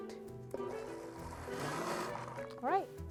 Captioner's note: blender running